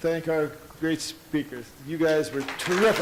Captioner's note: audience applauds